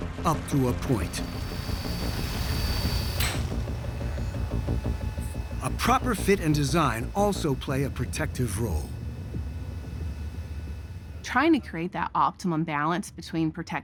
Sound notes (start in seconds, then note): 2.9 light clicks off